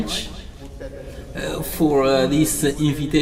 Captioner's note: speaking French